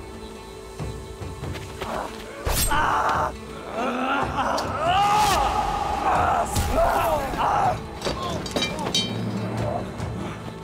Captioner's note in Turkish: Dövüş sesleri